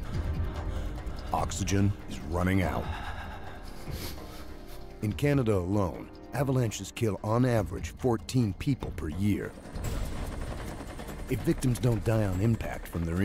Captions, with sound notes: - [Voiceover] Friday, 12:20pm a deadly avalanche slams a back country skier, burying him under a meter of hard packed snow. Oxygen is running out.